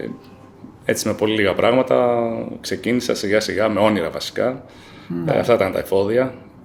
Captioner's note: laughs